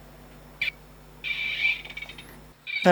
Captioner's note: beeping